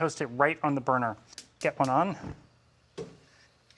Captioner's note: igniter clicks